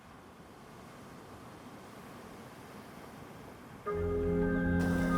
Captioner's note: light wind; peaceful music